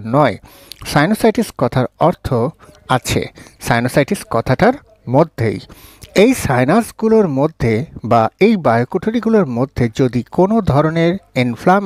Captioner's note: congested